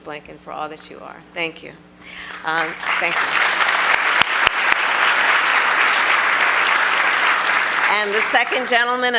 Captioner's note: applause